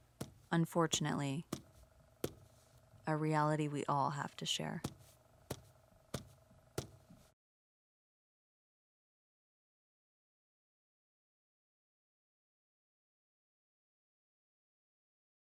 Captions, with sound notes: Unfortunately, a reality we all have to share. [thuds] [silence]